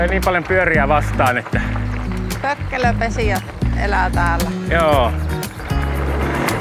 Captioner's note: birds